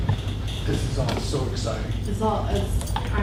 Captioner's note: voiceover